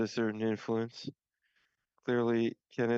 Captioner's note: speaking French